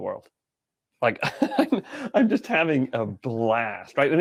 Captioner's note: laughing